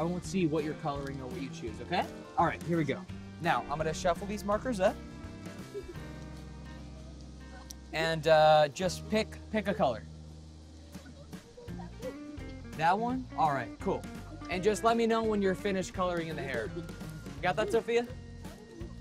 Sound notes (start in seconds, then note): 5.5 giggles